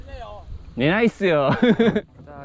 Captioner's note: laughs